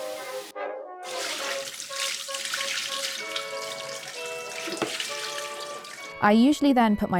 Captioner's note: water rushing; water splashing